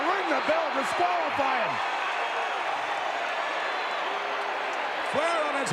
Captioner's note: audience cheering